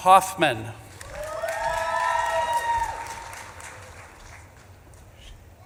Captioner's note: audience claps and cheers